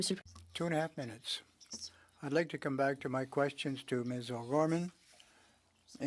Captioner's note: speaking French